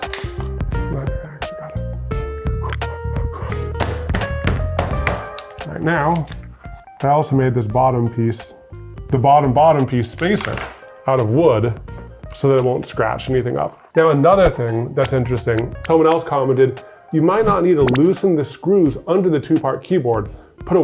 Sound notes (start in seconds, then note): 0.0 board snapping; 3.4 hands slamming